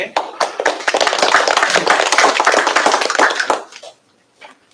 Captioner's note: applause